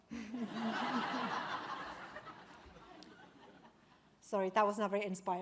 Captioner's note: audience laughs; laughing